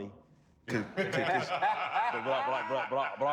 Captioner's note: all laughing